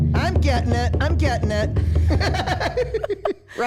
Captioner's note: laughs